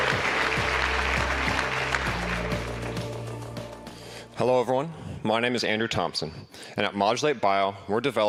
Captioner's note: applause